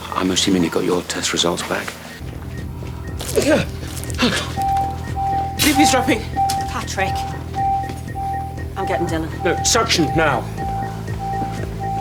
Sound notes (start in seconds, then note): 3.6 gasps